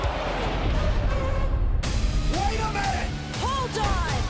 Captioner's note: crowd cheering